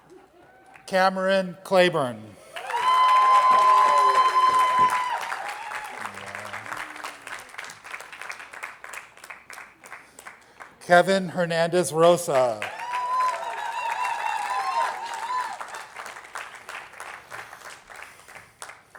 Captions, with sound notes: Cameron Clayborn. (attendees applauding) Kevin Hernández Rosa. (attendees applauding)